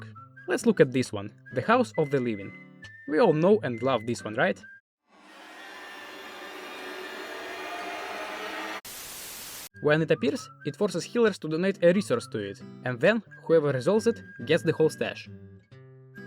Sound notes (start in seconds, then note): 4.8 arrising sounds of despair; 8.8 static